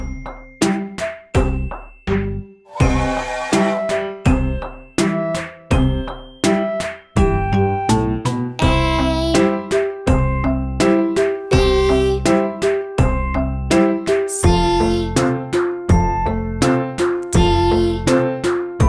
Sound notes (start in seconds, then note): 2.7 train whistle blowing